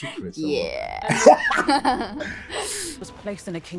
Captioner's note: laughs